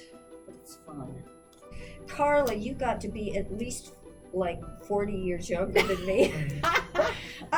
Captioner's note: laughs